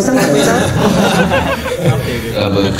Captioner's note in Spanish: Ja ja ja